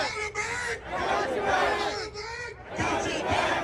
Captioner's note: crowd